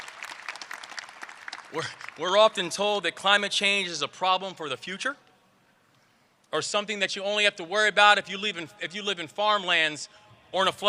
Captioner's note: applause